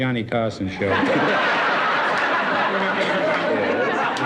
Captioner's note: audience laughs